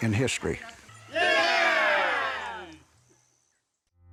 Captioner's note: cheering